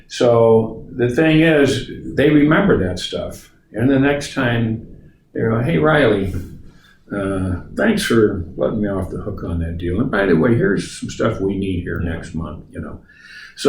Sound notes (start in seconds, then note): none